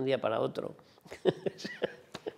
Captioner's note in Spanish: ríe